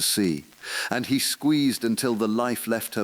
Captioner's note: voice trembling; exhale